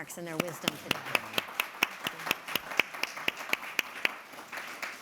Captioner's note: audience clapping